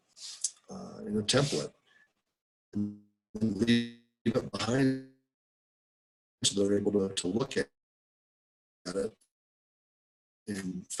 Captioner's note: break in audio